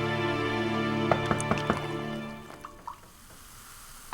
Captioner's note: knock